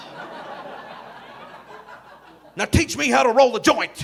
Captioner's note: audience laughing